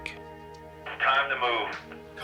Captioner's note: on phone